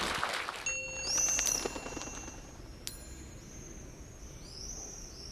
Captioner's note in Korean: 청중 박수